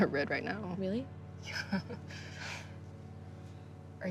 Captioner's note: chuckles